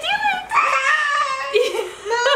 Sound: shouts; laughs

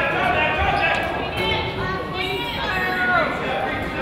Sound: coach yells

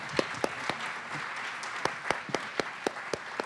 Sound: applause

